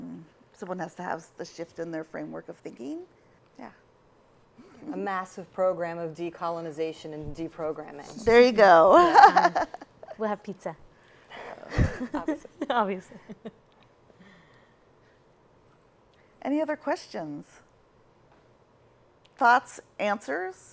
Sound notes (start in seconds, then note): 9.3 laughs; 11.6 chuckles